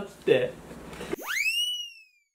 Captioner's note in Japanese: 効果音